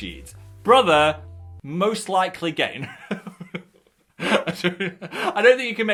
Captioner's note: laughs